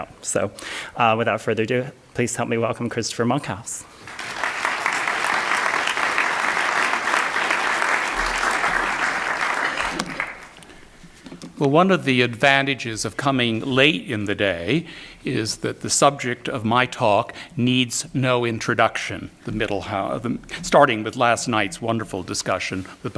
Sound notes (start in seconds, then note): 3.9 audience Clapping